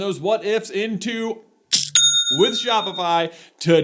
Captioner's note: cha-ching!